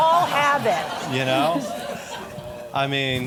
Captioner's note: laughter